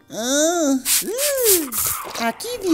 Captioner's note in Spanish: Sonido Spray